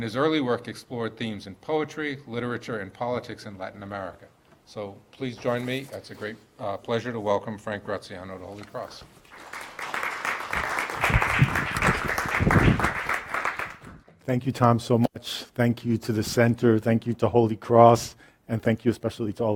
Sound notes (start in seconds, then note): 9.2 applause